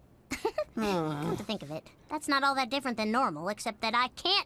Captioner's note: laughs